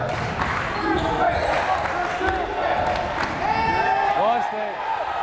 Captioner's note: crowd chanting defense